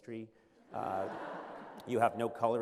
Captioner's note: laughter